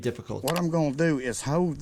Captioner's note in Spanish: clic